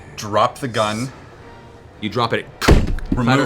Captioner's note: impact sound